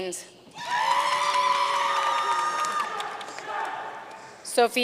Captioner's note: audience cheering and applauding